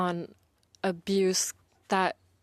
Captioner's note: speaking in French